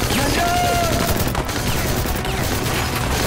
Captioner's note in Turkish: Silah sesleri